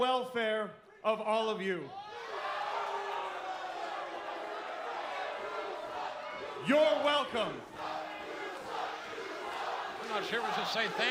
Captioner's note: crowd cheering